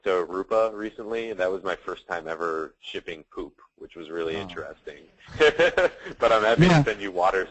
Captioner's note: laughs